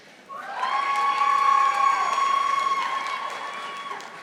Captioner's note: audience applauding